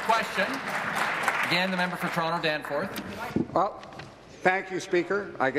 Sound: applause

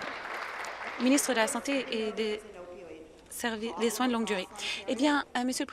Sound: applause

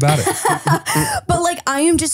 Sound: laughs

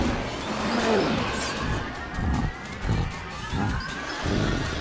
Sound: panting

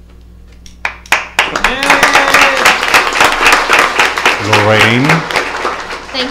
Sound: applause

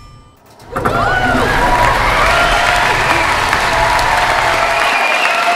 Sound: audience cheering and applause !

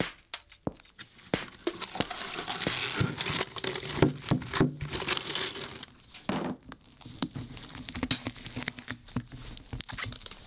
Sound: scratching

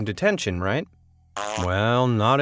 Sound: boy farting

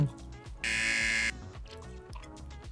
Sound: buzzer rings

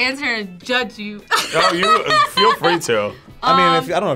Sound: laughs

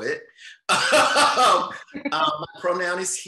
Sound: laughs loudly

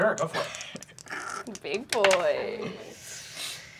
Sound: snickers

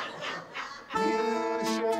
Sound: audience laughs

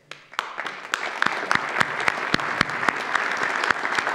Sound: audience applauds

